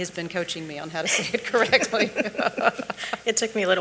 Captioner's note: chuckling